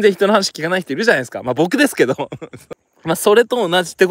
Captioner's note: laughs